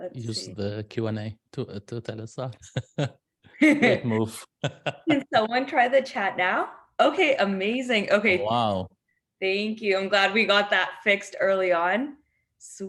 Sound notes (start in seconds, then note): 2.6 laughs